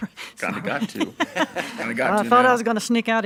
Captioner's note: all chuckling